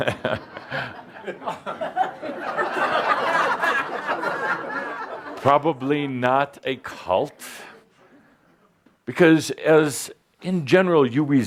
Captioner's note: Adamus chuckles and audience laughter